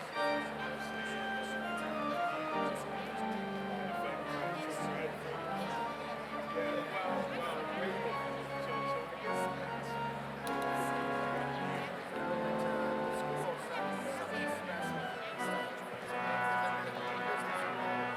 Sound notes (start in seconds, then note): 7.4 overlapping chattering; 7.4 upbeat organ music continues